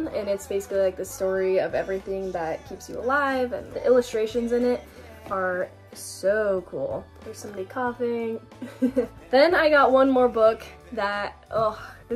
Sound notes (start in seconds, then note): 8.6 laughing